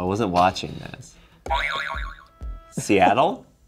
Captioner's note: springing sound